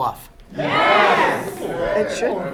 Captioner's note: crowd